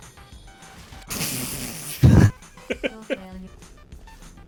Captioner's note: both laughing